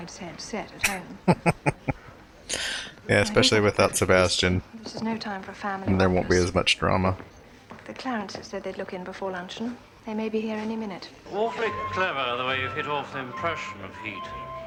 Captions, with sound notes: [Chuckling] Yeah, especially without Sebastian, there won't be as much drama.